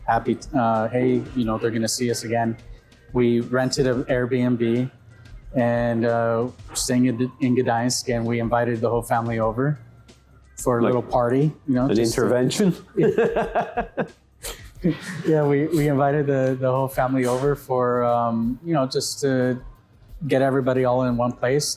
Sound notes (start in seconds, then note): 12.5 both laugh